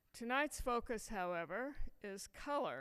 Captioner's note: none